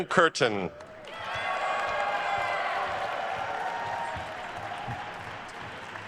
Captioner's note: attendees cheering and applauding